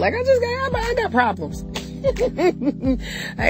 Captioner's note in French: rires